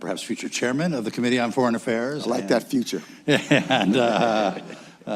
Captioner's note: laughter